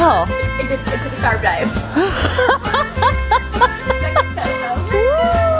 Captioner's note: laughing